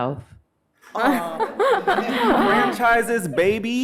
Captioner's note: all chuckling